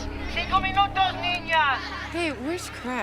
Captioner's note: Rovira speaking in Spanish